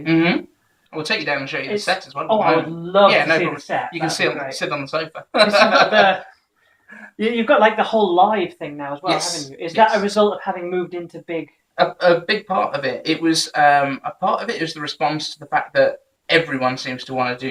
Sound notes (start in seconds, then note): 4.9 laughs